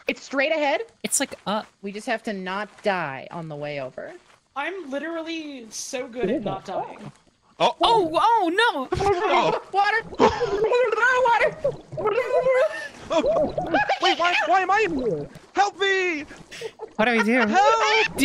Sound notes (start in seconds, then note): 7.0 gurgling; 9.0 gasps; 10.6 gurgling; 11.8 gurgles on-purpose